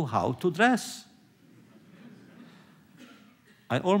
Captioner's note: laughter